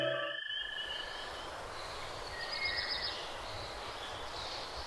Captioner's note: birds chirping